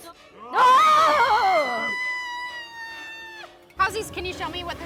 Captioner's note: screams